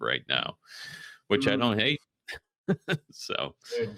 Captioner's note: laughs